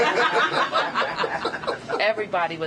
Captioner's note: laughter